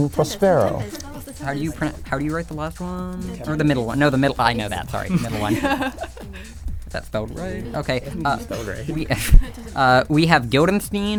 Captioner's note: whispering